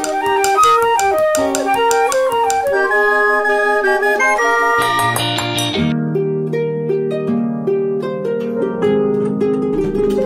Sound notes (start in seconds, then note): 0.0 flute music; 4.8 clinking glasses; 6.3 harp music